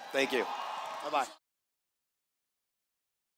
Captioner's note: cheers